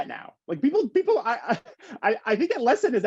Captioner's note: chuckles